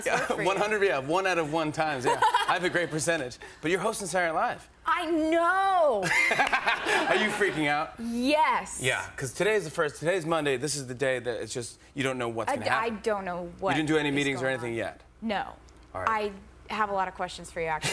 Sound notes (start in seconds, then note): 6.0 laughter